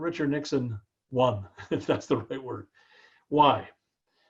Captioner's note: laugh